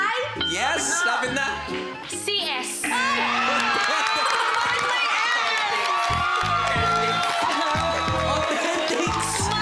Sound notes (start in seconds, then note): 3.5 laughter; 6.4 quirky music playing